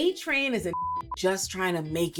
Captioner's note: beep